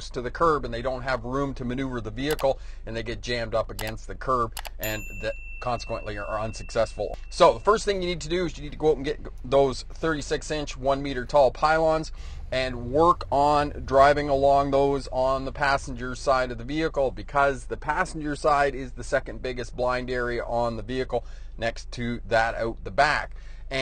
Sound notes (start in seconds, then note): 2.3 screen button tapping; 4.8 bell chimes